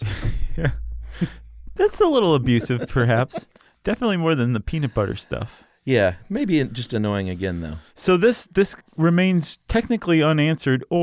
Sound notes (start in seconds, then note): 2.2 laughs